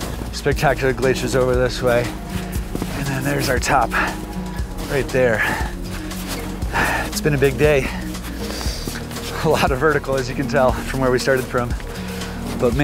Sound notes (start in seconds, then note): 5.8 heavy breathing